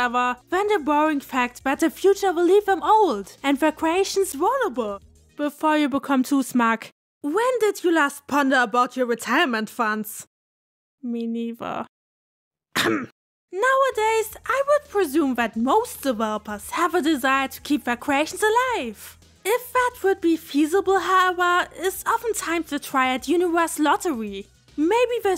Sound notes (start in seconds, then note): 12.7 cough